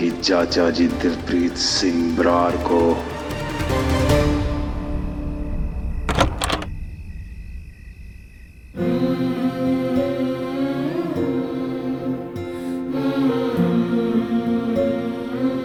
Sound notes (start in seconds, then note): 6.1 doors rattling; 8.7 emotional music playing